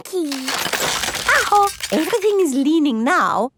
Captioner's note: house creaking